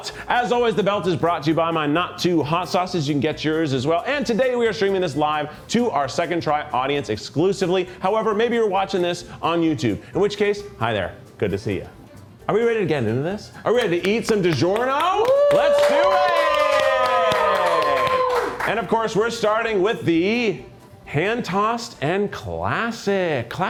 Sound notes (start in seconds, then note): 15.1 crew cheers